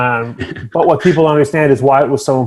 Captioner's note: chuckles